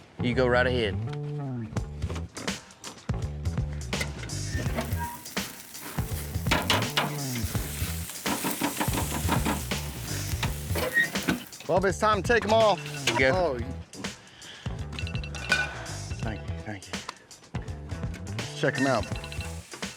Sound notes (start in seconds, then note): 2.8 opens door; 4.4 grill opens, steak sizzles; 7.4 banging sound; 11.6 grill closes